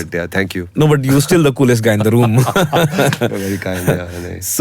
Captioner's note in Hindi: हंसी